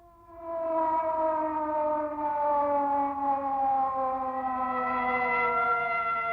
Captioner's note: sirens